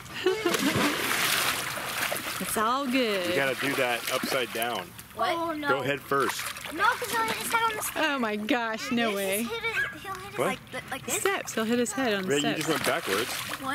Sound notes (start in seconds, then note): 0.2 laughs; 0.2 splashing